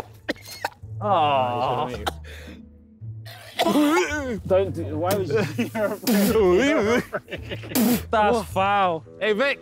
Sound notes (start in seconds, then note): 0.3 retching